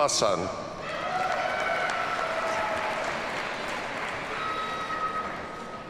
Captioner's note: audience cheers and applauds